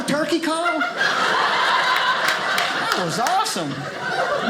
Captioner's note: audience laughing